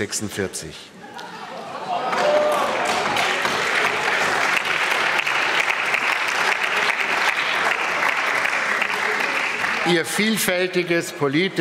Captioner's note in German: Applaus